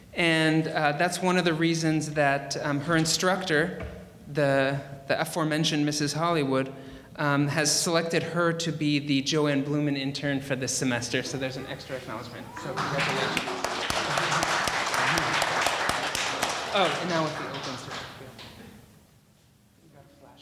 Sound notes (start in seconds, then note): 14.7 audience applauding